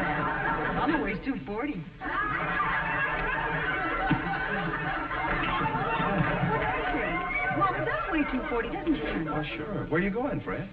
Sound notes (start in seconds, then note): 2.7 audience snickering; 6.1 audience laughing